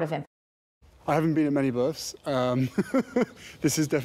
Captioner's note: laughs